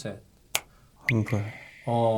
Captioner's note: snap!